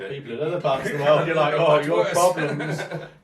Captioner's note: laughs